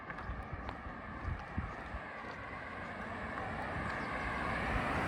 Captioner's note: traffic noise